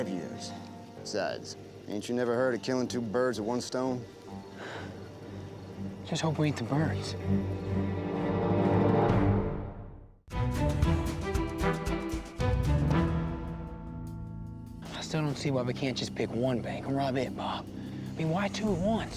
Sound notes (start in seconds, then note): 4.5 sighs